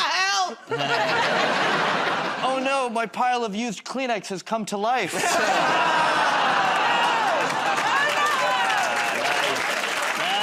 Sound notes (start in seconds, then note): 5.2 audience "Oh"s